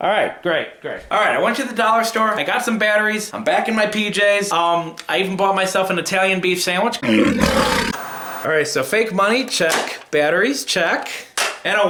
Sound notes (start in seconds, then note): 7.0 animal roaring